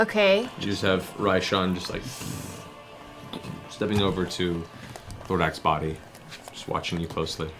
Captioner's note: booming footsteps